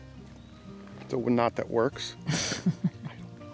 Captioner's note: woman laughing